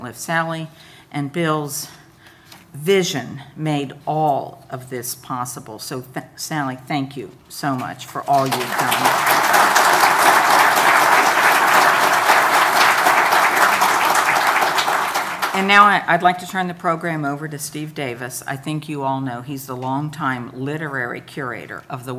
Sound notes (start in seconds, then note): 8.4 audience applauding